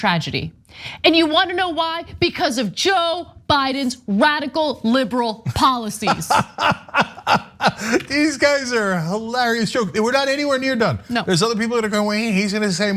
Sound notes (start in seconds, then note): 6.0 laugh